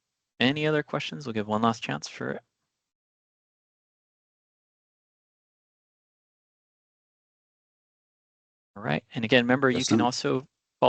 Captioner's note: pause